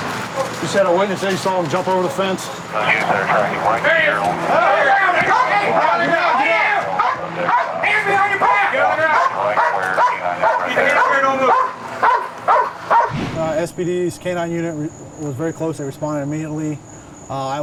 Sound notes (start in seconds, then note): 4.3 shouting; 11.8 dog barking